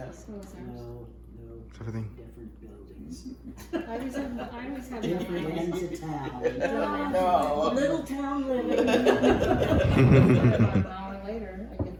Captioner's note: all laughing